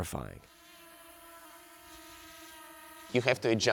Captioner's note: drone humming